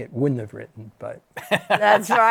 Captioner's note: laughs